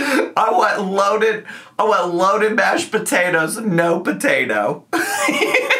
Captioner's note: laughs